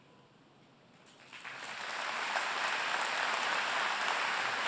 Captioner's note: applause